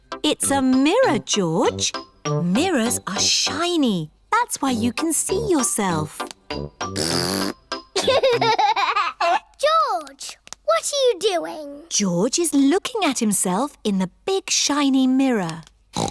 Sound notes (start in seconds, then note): 6.8 blows raspberry; 7.9 giggles; 15.9 snorts